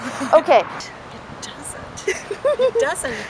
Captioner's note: laughing